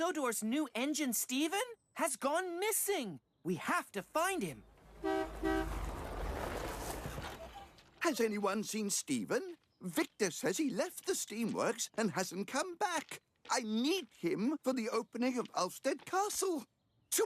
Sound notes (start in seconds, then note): 4.8 honk-Honk!